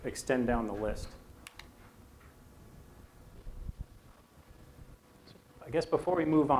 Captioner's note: silence